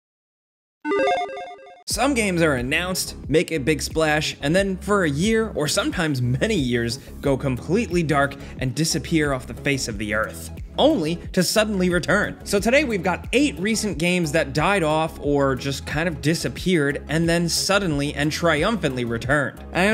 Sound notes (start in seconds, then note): 0.8 electronic chiming